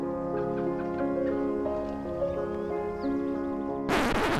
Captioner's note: gentle piano music; water bubbling